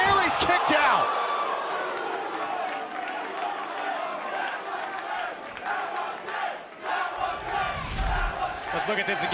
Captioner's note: crowd cheering